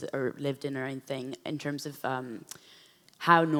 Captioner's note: none